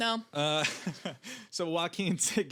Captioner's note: laughing